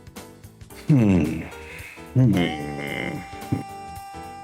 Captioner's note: sigh